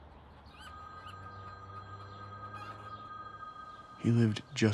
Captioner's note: phone ringing